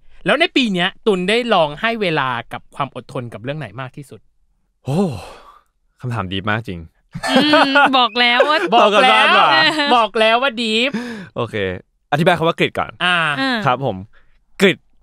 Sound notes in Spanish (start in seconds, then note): 7.1 Risas